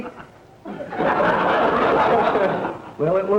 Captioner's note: audience laughter